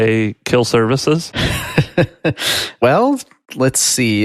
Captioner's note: chuckles